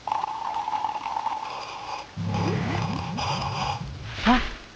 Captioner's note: sips loudly